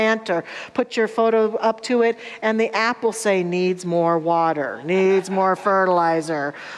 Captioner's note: audience laughter